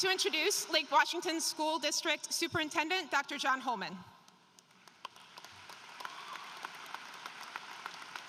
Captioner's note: applause